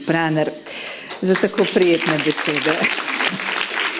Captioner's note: clapping